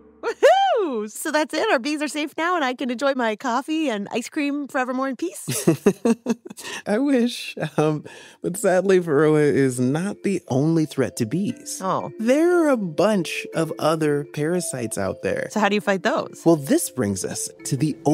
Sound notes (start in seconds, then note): 5.4 laughing woefully